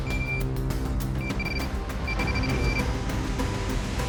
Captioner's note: beeping